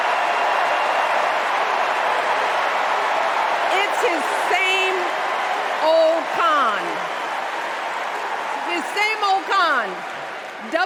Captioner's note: cheers and applause